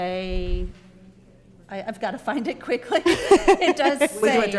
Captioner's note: laughing